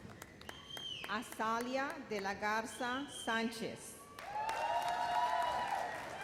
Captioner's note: audience cheers